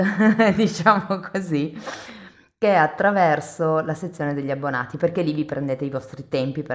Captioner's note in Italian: sbuffare